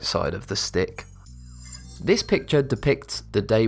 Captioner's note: futuristic ringing